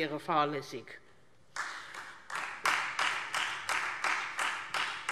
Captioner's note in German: Beifall Freie Demokraten